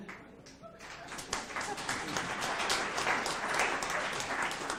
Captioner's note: audience applauds